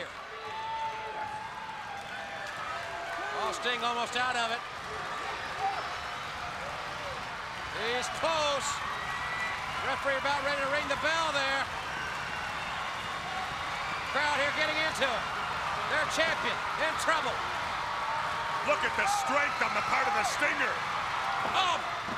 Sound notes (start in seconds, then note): 2.1 crowd chatters; 6.7 crowd cheering; 12.2 crowd cheering; 18.6 crowd cheering; 21.2 crowd chatters